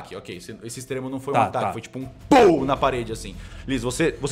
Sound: pow

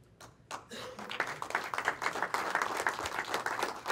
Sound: clapping

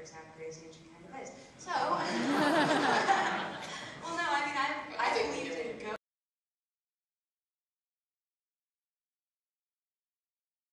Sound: laughter

